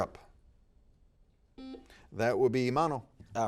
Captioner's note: buzzer beeping